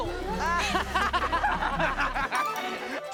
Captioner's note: laughing